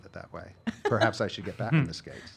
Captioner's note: laughing